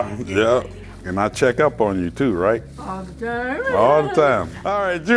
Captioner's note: laughs